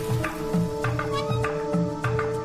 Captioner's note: door creaks